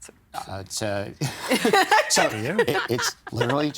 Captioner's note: laughing